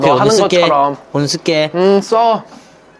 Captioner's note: cheesy chit chat